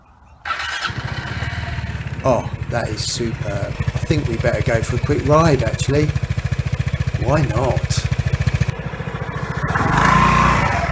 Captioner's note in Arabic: محرك يبدأ